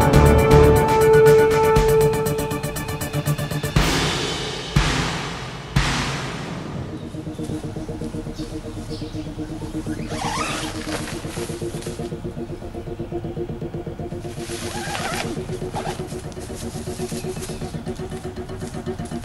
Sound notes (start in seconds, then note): 9.8 tent unzips; 14.3 tent zips